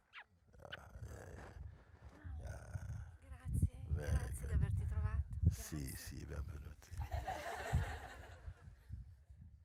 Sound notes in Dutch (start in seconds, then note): 6.9 gelach